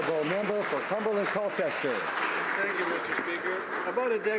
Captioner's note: some Applause